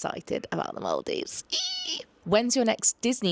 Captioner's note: squeals delightedly